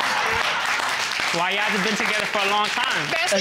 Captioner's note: audience applauds